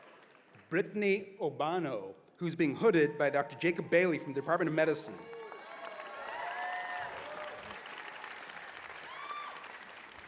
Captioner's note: cheers and applause